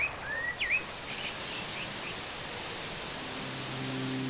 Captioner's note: birds singing; water gurgling